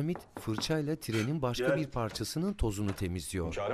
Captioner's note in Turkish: Kapı vurma sesi; Kapı açılma sesi